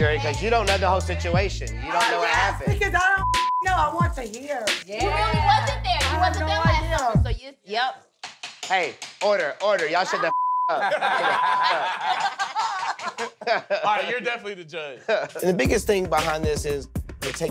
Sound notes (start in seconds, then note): 3.2 beep; 10.3 beep; 10.7 all laugh